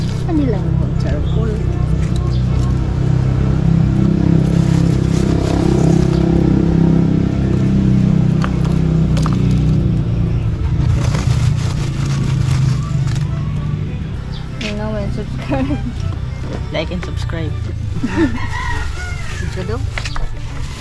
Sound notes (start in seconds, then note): 4.0 motorcycle in the background; 17.9 youtuber laugh